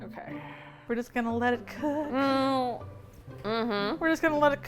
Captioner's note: hums, her voice muffled; singsong